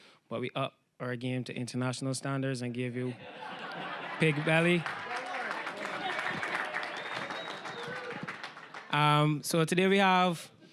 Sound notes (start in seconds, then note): 3.2 audience laughing